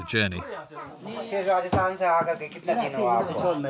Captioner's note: foreign language spoken